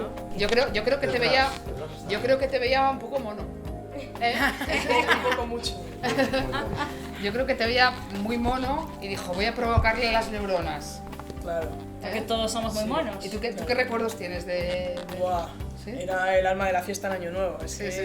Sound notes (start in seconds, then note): 4.3 laughs